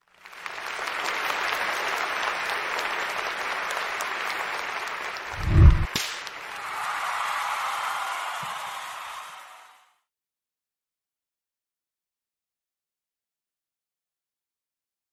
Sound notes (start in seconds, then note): 0.2 crowd clapping; 6.6 crowd cheering